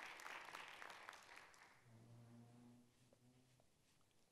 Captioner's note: applause